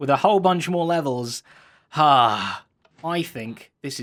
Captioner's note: sigh